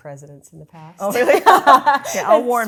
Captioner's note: laughs